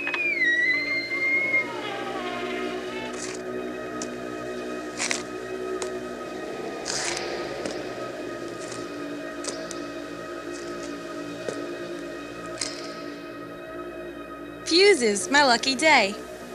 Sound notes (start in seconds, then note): 0.0 door opens; 5.1 heavy footsteps